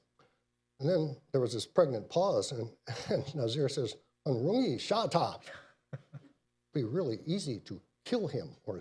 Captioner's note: speaks in Mandarin